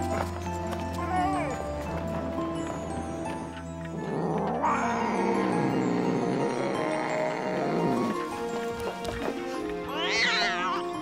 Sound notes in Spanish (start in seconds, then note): 0.1 perro lloriqueando; 4.1 gato gruñendo